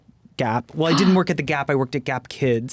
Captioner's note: gasps